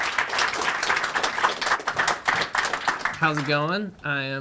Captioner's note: crowd applauding